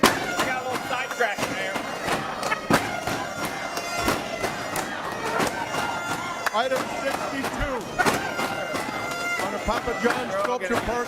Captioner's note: audience chanting we vote no